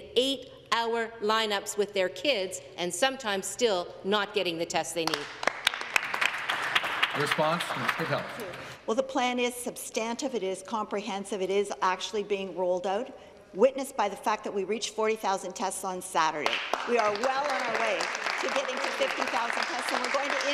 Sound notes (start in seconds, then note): 8.7 some Applause